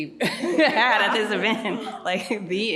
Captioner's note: laughs